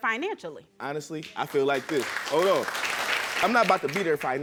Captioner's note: audience applauding